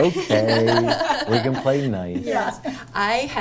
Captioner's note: people laughing